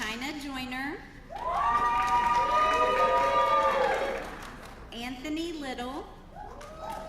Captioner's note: applause; applause